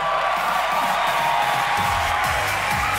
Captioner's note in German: Applaus und Jubel